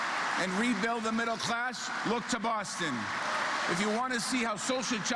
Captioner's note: applause